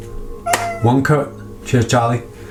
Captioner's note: cat meows